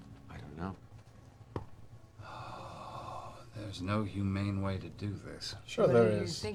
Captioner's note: sighs